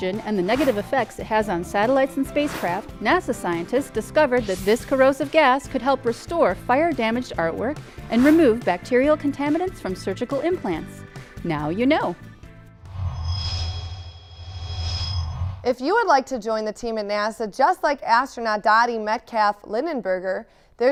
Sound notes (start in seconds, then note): 12.8 sound Effects